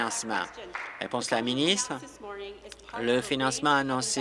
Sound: applause

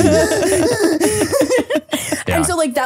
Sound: gasping for air

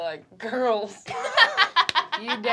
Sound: laughing

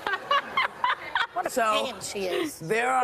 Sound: woman laughing

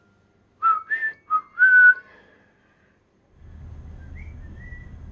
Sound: Whistles the tune he heard Debby and Bruce whistle earlier; whistled reply from inside the house

